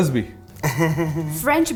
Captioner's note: giggles